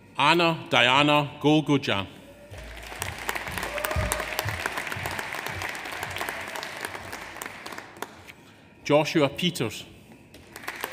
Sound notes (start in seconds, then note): 2.5 audience cheers; 2.5 audience applauds; 10.4 audience applauds; 10.7 audience cheers